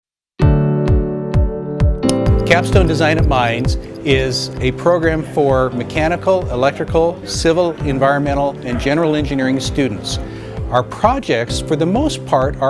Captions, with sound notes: (pulsating music) (clock ticking) - Capstone Design@Mines is a program for mechanical, electrical, civil, environmental, and general engineering students. Our projects, for the most part,